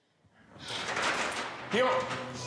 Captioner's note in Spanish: sonido al abrir la puerta